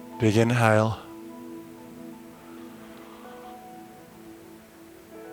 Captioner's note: exhaling